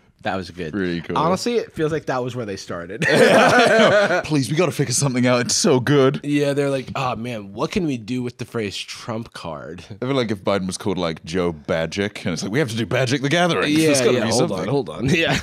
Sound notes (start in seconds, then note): 3.0 laughs